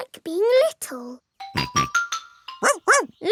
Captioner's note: snorts; barks